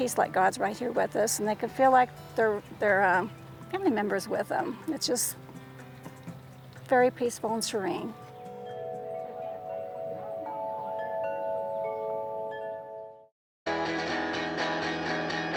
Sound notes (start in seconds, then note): 8.4 bells chime